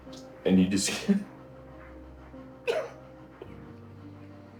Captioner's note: sobbing